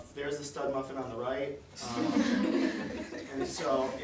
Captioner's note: audience laughter